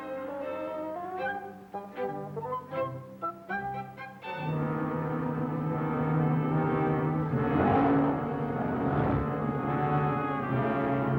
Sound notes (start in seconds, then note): 4.1 dramatic music; 7.3 growling